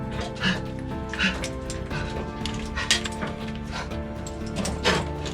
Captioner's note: panting heavily